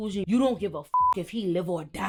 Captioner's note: beep